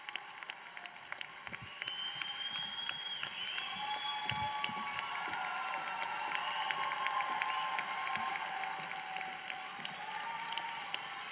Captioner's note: applause